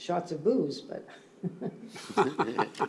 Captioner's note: laughter